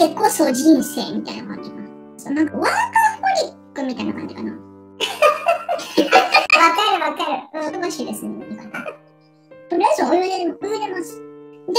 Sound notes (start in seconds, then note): 5.0 laughs